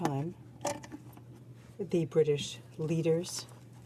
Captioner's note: speaking French